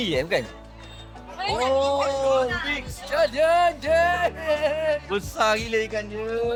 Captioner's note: speaking Chinese